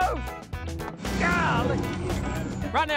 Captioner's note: tires spinning